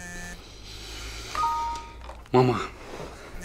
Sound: error sound

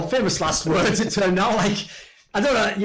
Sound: laughs

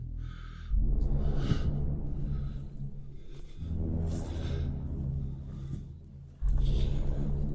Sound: breathes deeply; eerie music

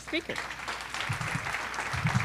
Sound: applause

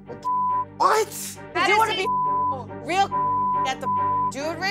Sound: beep

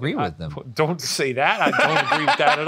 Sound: laughing

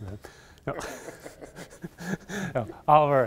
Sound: laughter

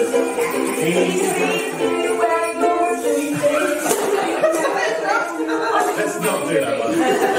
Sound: laughter; laughter

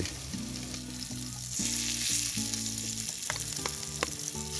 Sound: lobster sizzles; light guitar music

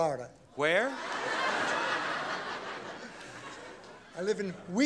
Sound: audience laughs

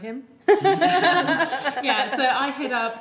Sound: group laughs

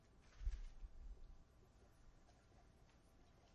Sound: pause

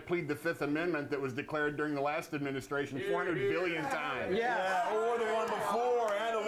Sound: scattered approval

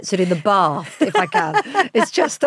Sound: Giovanna laughs

